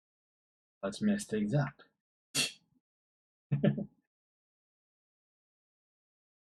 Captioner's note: laughs